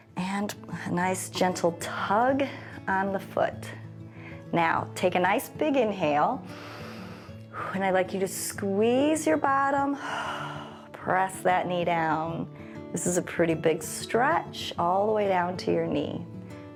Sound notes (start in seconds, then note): 6.5 inhales; 10.0 exhales